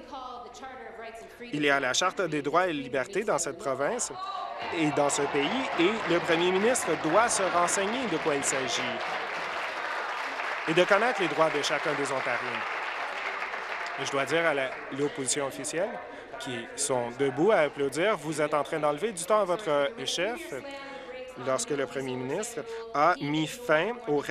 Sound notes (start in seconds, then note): 12.5 applause